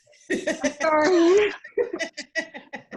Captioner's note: laughing